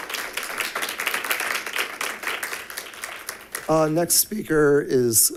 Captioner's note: members clapping